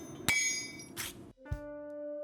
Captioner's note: metal clinking; tool scarping; soft music